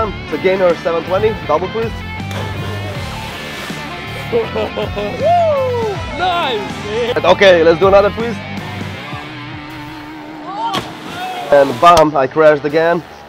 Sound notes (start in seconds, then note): 2.3 splash; 4.2 laughter; 10.7 splash